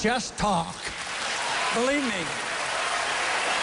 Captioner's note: applause